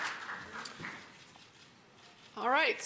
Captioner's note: applause